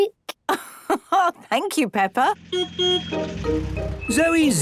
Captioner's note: laugh; honking